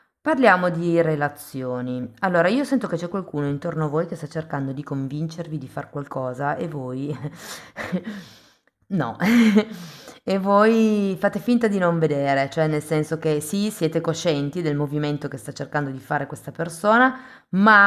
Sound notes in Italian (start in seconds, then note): 7.4 sbuffare; 9.2 risate